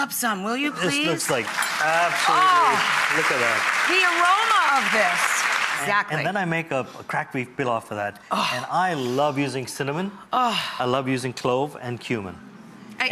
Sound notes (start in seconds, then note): 1.0 audience claps